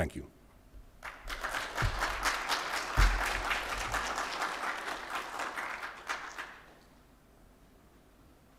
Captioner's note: applause